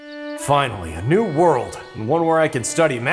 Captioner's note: Rudy Voiceover